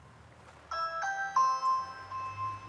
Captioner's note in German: Türklingel